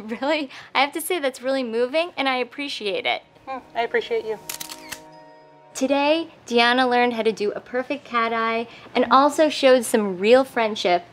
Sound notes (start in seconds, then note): 4.4 camera clicking